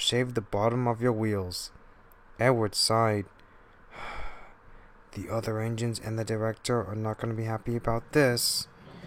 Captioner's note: sigh